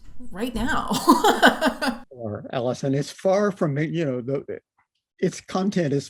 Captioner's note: laughter